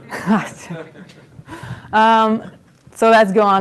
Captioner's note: laughter